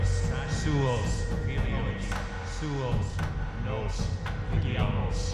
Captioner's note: chanting in foreign language